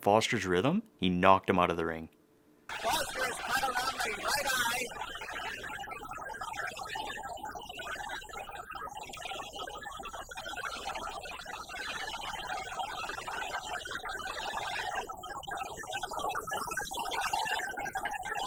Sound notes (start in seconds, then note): 5.5 crowd cheering